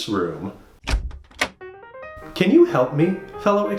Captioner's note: sound of door opening, then jazzy music